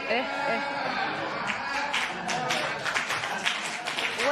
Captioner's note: spectators murmur; applause